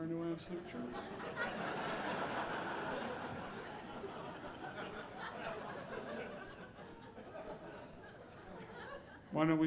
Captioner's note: audience laughing